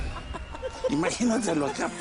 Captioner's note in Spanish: Risas